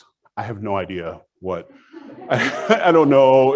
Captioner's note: audience laughs